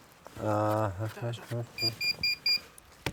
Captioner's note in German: Piepsen